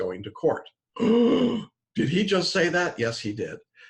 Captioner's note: gasping